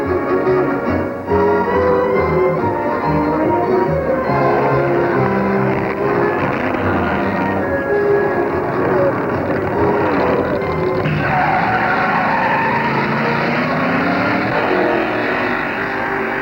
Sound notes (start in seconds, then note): 6.3 engines revving; 11.9 engine roaring